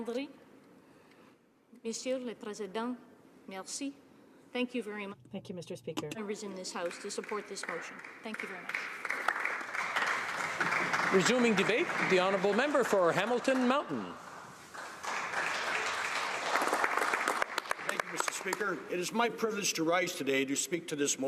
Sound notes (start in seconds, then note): 5.4 speaking alternative language